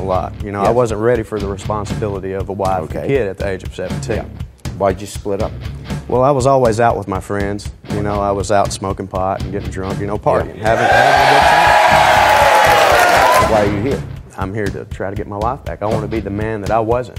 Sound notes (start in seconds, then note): 10.5 audience cheering